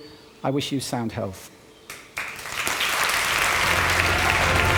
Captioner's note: applause